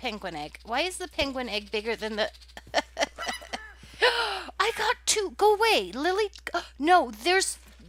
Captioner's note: gasp